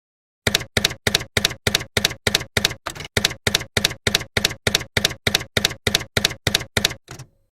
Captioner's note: typewriter keys clacking